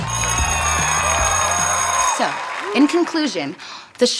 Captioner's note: school bell rings